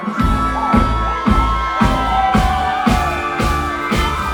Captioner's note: crowd cheers; upbeat music